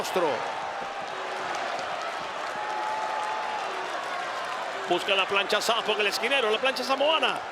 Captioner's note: applause